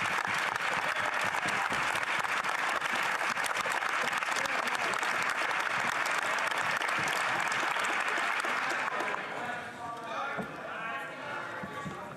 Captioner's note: some Applause